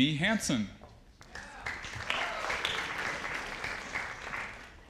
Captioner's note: audience applauding